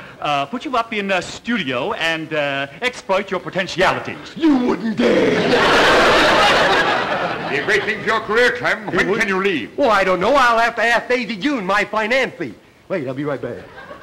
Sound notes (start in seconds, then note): 5.1 audience laughter